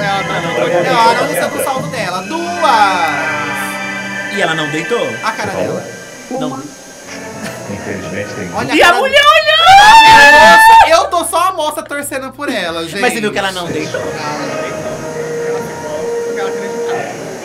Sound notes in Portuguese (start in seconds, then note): 9.0 gritos